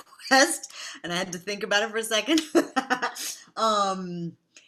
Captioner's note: laughs